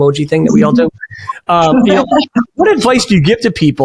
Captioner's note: chuckles